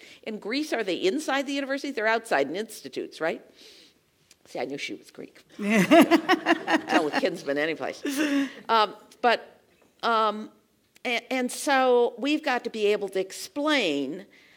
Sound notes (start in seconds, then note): 5.6 laugh